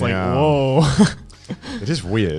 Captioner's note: chuckles